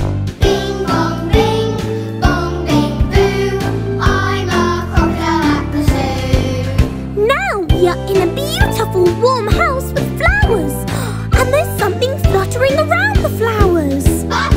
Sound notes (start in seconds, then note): 10.8 gasps